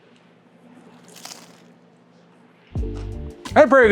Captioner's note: chicken burger crunching